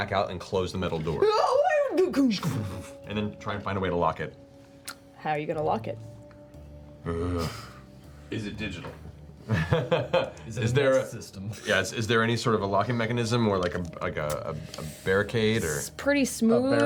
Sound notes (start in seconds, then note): 9.5 laughs